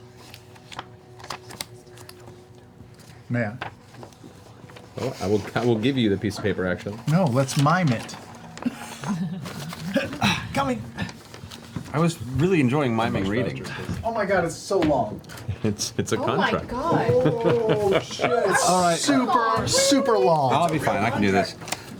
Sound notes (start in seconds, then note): 9.8 grunts; 16.7 chuckles